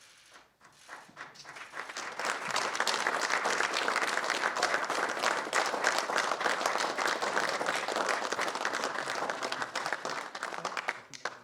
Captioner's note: applause